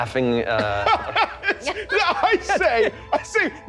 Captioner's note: laughing